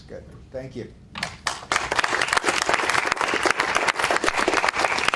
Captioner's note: applause